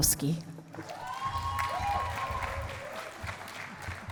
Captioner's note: cheering and applause